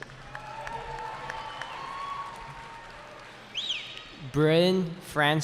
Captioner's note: cheering